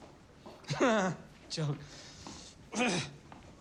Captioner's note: clears Throat